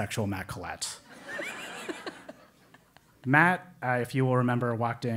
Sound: laugh

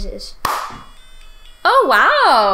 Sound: claps

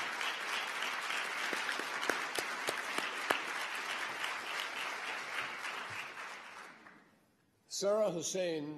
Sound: applause

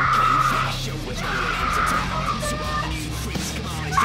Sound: screams

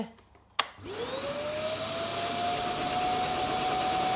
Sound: wet vac roars

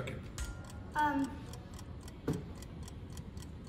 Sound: clock ticking

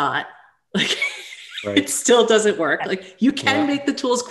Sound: chuckles

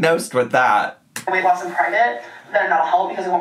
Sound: mouse clicking

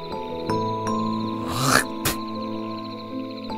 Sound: spitting

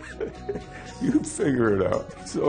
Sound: laughs

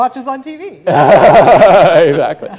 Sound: laughing

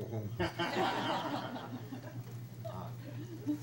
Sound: crowd laughs

